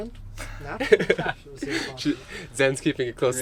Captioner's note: both chuckling